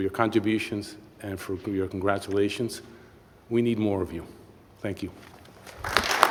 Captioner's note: applause